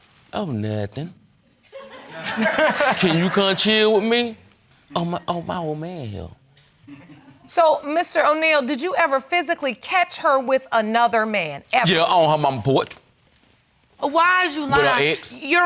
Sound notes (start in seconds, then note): 1.8 audience laughing